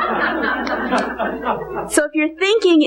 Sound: congregation laughing

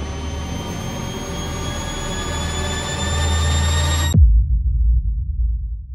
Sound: high-pitched humming

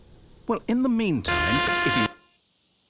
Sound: loud buzzer

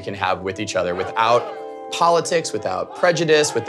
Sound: blows whistle

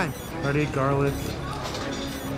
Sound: timer beeping

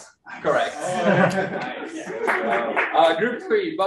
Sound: room laughs

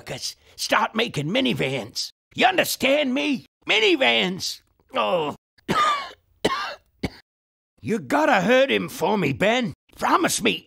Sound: groans and coughs

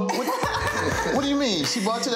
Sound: giggling

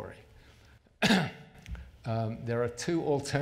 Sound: clears throat

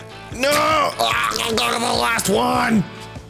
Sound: gurgling

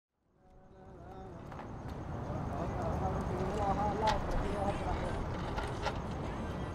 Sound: cars whooshing; man singing

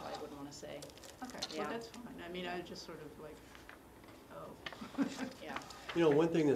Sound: laugh

